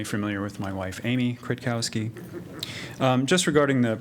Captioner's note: laughter